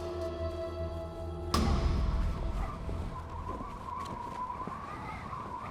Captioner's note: wind whistling